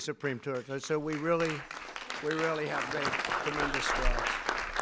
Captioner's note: applause